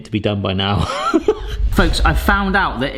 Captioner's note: laughing